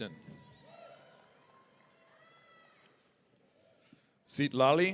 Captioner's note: audience cheering